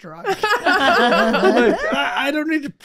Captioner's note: group laughing